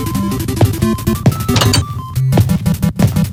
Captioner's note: footsteps; door opens